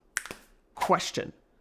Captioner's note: fingers snapping